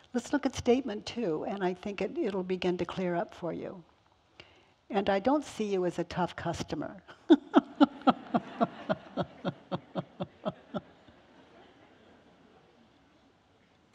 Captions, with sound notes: Let's look at statement two and I think it'll begin to clear up for you. And I don't see you as a tough customer.(laughs)